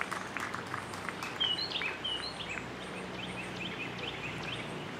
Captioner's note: birds chirping